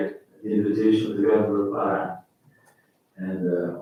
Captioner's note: faintly speaking